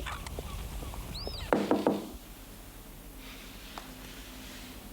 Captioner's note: door thudding